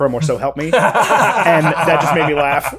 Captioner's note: both laughing